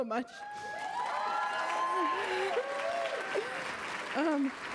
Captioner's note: applause